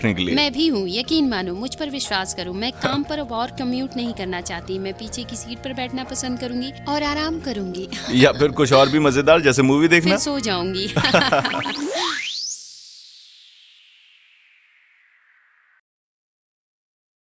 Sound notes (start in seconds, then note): 7.9 chuckling; 10.8 chuckling; 11.4 futuristic tones beeping; 11.5 frequency tone whistling